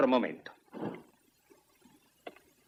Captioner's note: stamps floor